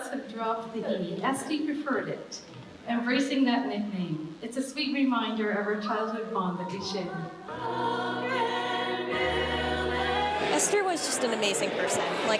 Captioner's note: applause